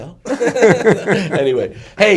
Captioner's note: all laugh